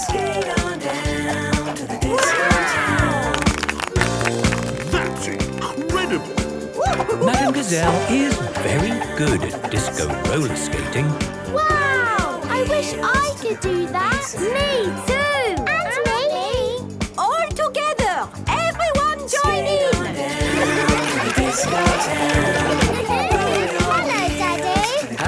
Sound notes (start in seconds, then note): 20.4 laughter